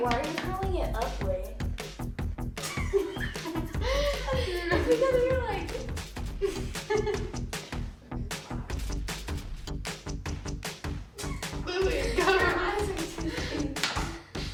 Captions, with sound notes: - Wait, why are you curling it up way? (giggling) - Wait, close your eyes.